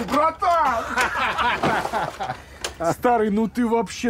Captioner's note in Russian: Гошка смеётся